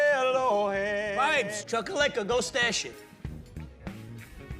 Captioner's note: Italian spoken audio